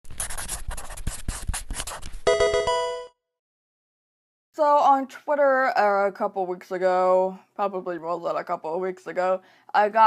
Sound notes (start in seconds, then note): 0.0 marker scratching; 2.2 electronic video game chime